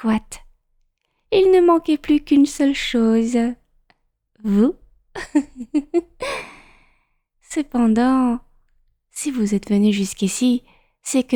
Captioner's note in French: rires